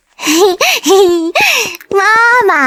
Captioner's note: giggles